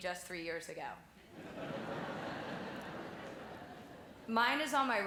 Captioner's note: laughing